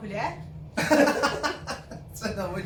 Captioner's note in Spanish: risas